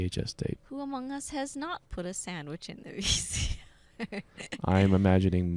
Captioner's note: laughing